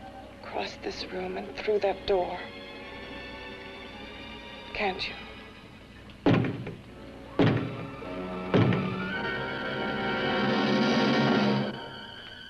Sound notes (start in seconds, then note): 6.3 suspenseful music; 7.4 banging steadily on door; 9.3 suspenseful music